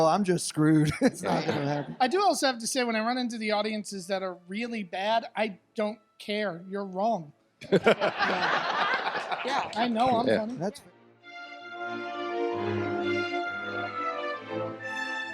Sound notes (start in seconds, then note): 7.6 audience laughs; 11.6 classical music